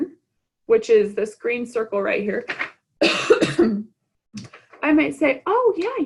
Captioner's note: coughs